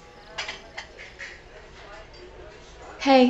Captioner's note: people chattering